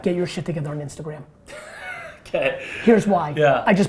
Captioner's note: laughs